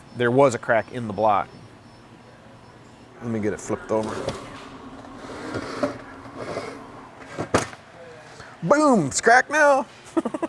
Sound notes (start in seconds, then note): 5.5 scraping